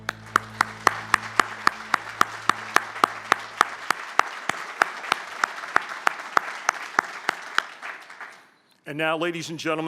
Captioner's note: applause